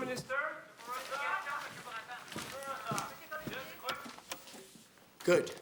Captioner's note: crowd chattering